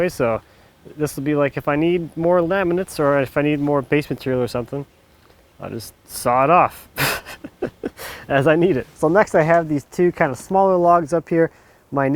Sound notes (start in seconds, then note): 6.9 laughs